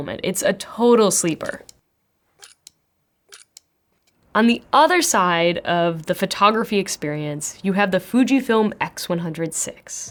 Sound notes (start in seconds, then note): 1.8 camera clicking